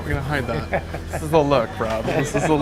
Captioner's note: laughter